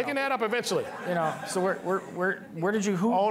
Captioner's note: all laughing